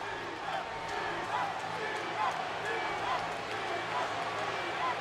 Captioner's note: crowd cheering